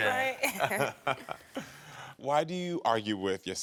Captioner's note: both chuckle